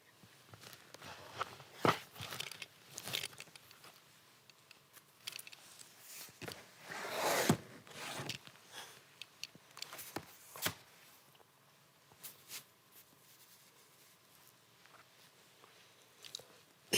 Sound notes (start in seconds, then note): 0.5 rustling; 7.0 scraping; 12.2 rustling; 16.7 clears throat